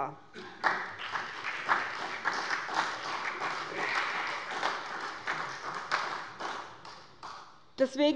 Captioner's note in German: Beifall bei der SPD